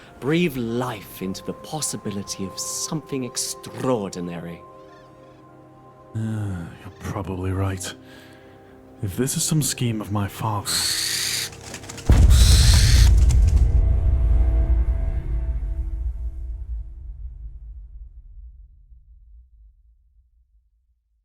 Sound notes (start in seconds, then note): 12.2 screech